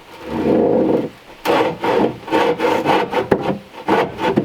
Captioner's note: saw scraping